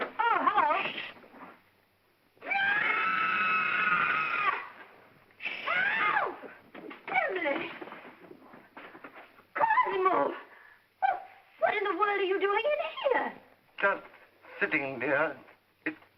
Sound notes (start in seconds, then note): 2.5 Emily screams